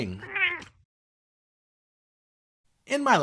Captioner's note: meow!